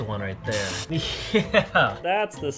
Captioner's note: laughs